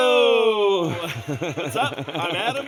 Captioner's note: laughing